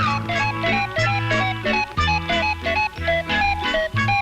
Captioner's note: clock cuckoo-ing